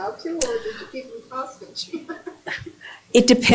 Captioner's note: chuckle